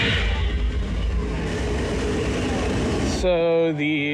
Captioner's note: steam hissing